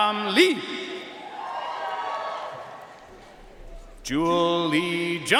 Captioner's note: audience cheering and applauding